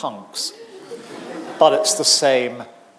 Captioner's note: audience laughing